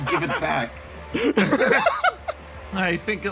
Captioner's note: laughs